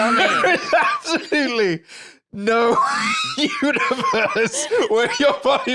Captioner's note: laughing